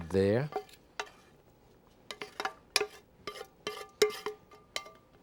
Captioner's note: spoon clanging